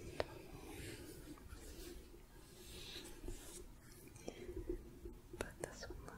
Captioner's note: gentle shuffling